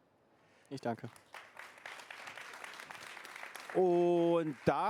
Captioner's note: applause